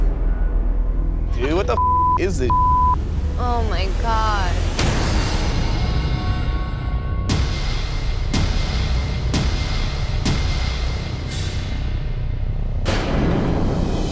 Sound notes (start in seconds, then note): 2.4 beep; 4.8 dramatic drum beats